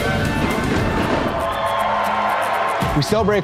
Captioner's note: audience cheering